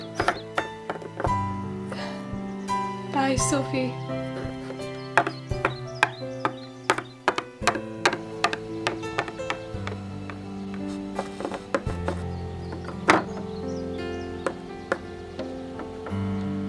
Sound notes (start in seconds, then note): 1.8 sighs